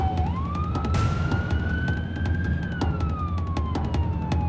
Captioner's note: sirens